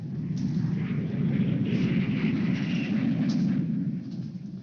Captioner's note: airplane engine whirring